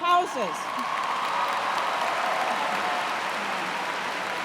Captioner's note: cheers and applause